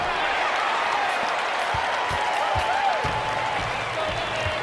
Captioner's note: crowd cheering